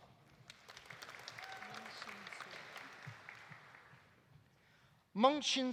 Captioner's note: audience applauding; audience cheering